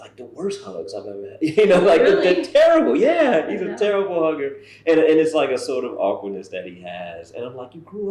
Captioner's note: laughter